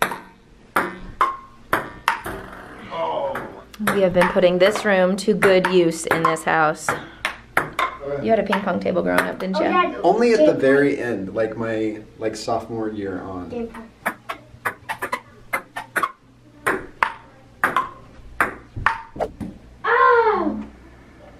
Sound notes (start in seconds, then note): 1.6 ping pong ball bouncing; 13.7 ping pong ball bouncing